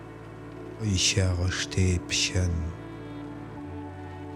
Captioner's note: german